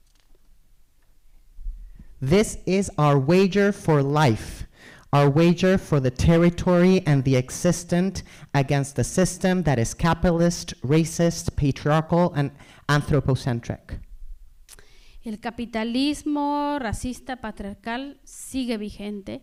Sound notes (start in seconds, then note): 15.4 speaking spanish